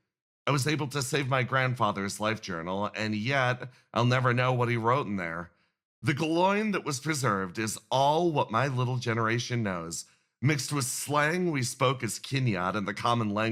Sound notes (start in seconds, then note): none